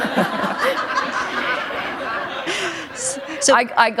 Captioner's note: laughter